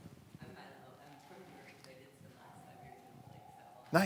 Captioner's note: voice muffled